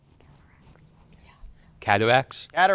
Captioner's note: group whispering